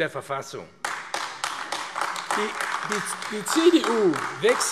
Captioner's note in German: Beifall AfD